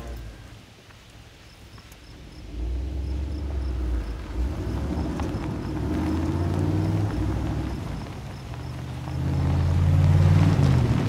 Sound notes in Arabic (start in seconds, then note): none